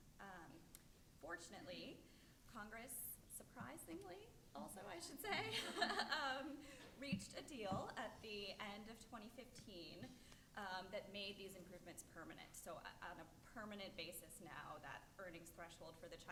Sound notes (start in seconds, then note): 5.3 laughs